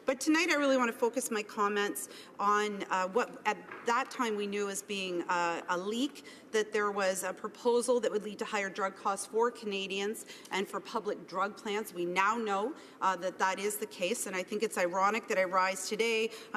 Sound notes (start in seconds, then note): none